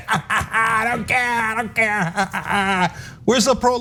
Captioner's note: laugh